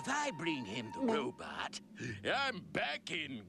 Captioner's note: gulps